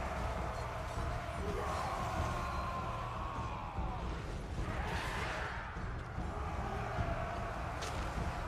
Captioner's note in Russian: крик; крик